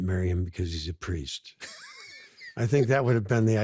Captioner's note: laughs